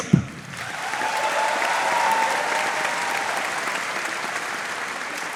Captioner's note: audience cheering and applauding